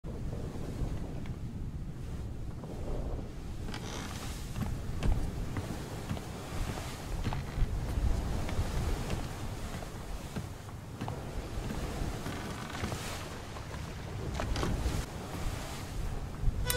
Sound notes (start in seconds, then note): 1.6 ocean wind, creaking footsteps on a boat